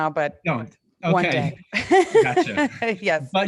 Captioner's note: laughs